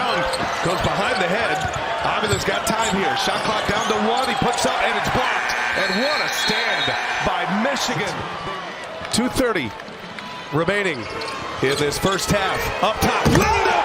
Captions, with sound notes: FOR ST. LOUIS ON THE BENCH. >> AND, WHAT A STAND BY MICHIGAN. THEY RISE TO THEIR FEET ON 2:30 MINUTES REMAINING IN THE FIRST HALF. UP TOP. LENDEBORG! [ CHEERS AND APPLAUSE ] [ CROWD NOISE ]